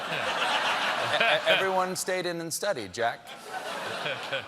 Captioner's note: laughter